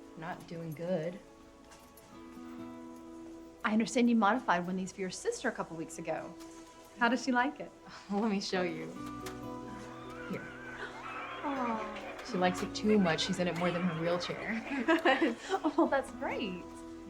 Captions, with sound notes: - Not doing good. - I understand you modified one of these for your sister a couple weeks ago, how does she like it? - [chuckles] Let me show you. [inspiring music] Here. [revving automatic wheel chair] - Aww. - She likes it too much. She's in it more than her wheelchair. [laughter] - Oh, that's great.